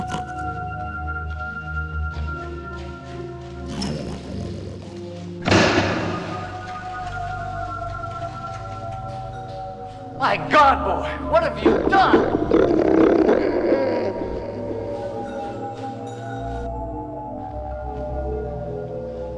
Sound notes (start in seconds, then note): 1.0 Buddy snorting